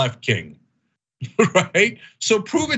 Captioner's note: laugh